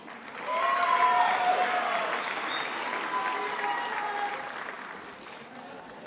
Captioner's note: attendees applauding and cheering